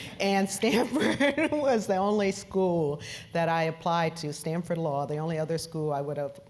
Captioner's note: laugh